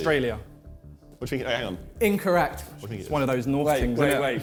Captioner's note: men chattering